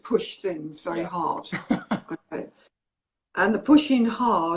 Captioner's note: chuckles